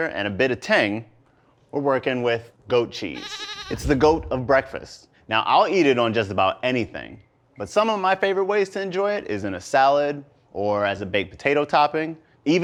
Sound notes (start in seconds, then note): 3.1 baaaaa